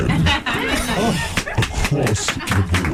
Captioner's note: laughing